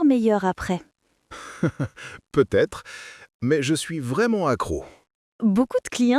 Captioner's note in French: rire